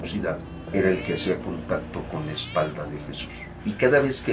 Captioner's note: baby crying